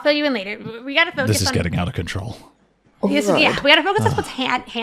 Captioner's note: sighs